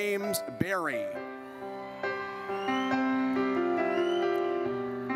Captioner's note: audience cheers